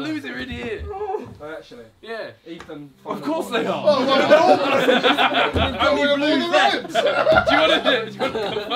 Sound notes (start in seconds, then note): 3.7 all laughing and chattering